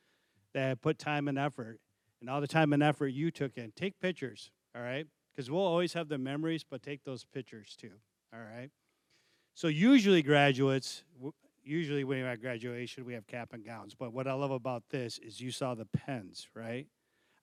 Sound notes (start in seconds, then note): none